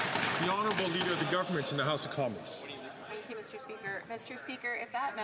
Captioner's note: some Applause